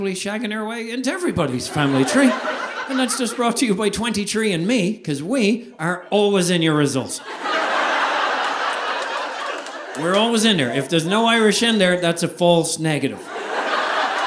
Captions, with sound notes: shagging our way into everybody's family tree. And that's just brought to you by 23andMe 'cause we are always in your results. (audience laughing) We're always in there. If there's no Irish in there, that's a false negative.